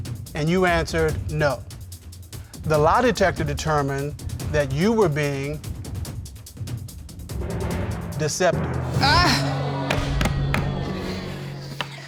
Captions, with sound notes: And you answered, "No." The lie detector determined that you were being... Deceptive. Oh! (AUDIENCE GROANS)